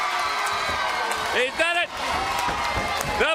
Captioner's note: crowd cheering